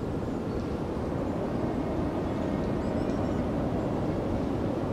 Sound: wind

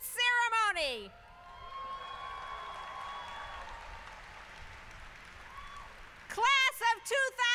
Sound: applause

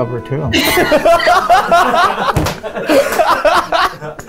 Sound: laughing

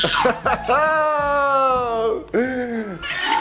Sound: laughs

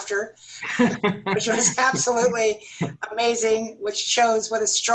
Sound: laughter

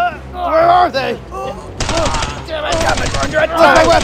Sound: rapid Gun Fires

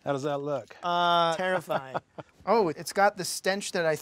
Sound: laughing

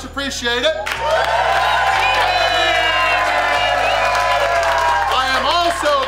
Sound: everyone clapping and cheering

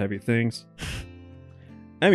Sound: chuckles

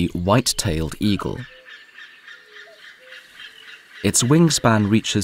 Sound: sounds of nature

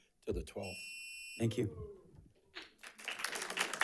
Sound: timer chimes; audience applauds

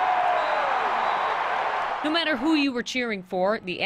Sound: cheering and applause

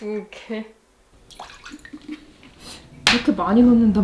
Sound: SFX: Pouring soy sauce

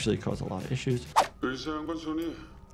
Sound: screenshot whooshes; man speaking in foreign language

